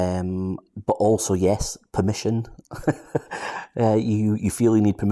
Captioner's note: laughs